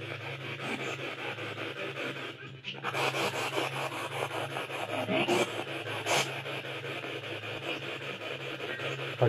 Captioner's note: radio noise from the spirit box